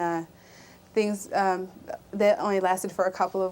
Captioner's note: none